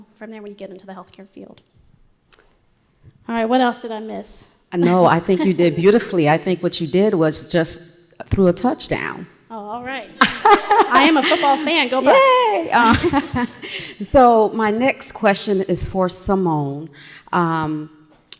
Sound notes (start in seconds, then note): 10.2 laughs